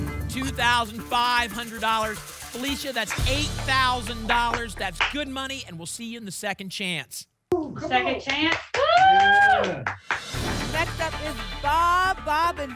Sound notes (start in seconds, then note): 8.2 clapping